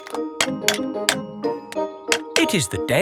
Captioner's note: clanking